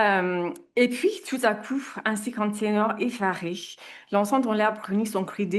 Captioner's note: speaks in French